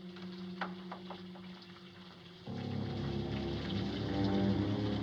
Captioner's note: water Running